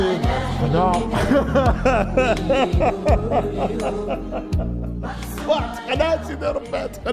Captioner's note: laugh